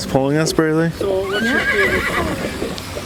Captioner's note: horse neighs